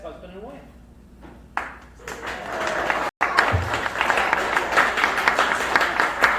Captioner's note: everyone clapping